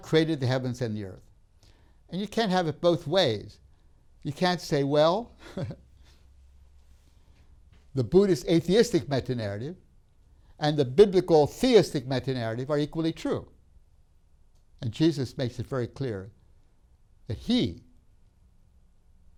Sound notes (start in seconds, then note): 5.4 laughs